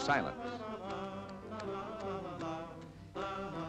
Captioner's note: humming